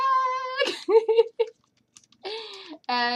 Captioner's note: laughter